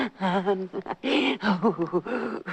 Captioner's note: laughing